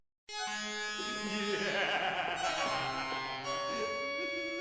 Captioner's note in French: rire démoniaque